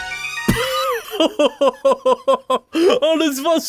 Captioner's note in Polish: śmiech Spejsona